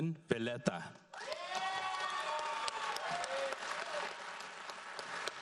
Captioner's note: audience applauds